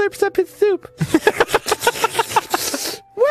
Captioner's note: slurping